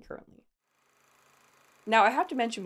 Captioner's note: projector whirring